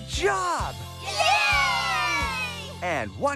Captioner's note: all Cheering